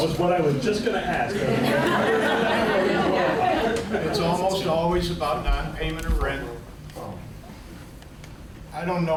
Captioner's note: laughter